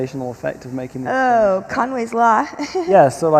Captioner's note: chuckles